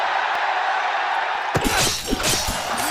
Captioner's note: applause